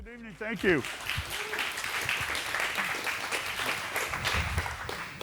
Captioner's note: audience applauds